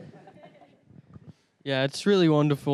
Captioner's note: everyone laughing